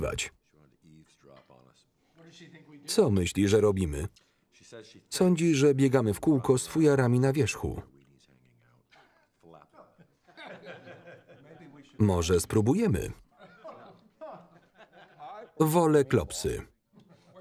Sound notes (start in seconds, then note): 8.9 laughing; 13.3 laughing